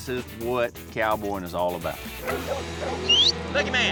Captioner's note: whistle